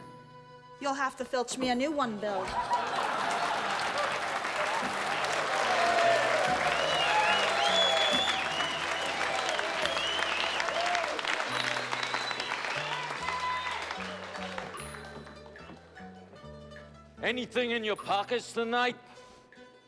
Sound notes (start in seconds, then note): 2.2 laughter; 2.5 all cheering